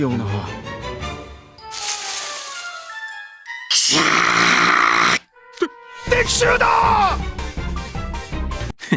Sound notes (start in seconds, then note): 1.7 rustle rustle